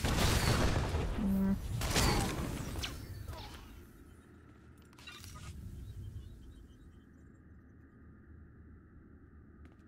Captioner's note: gunshots